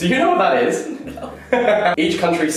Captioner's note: laughs